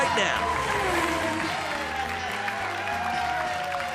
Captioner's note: audience cheers; audience applauds